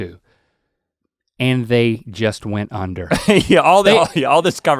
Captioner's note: Rhett laughs